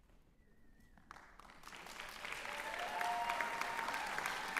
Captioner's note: applause